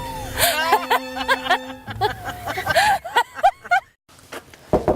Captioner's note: laughter; knocking on door